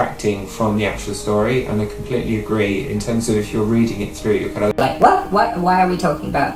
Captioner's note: high pitch tone